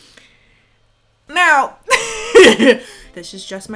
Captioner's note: laughs